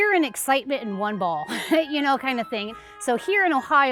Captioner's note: laughs